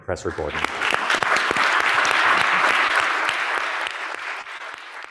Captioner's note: audience applauds